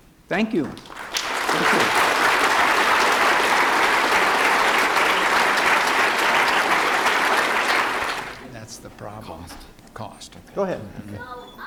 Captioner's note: applause